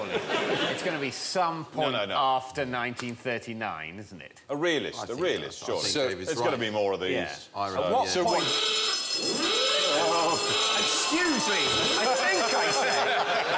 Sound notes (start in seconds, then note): 8.2 klaxon sounds